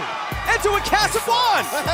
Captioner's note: bell